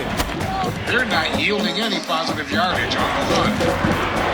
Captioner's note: radio Announcer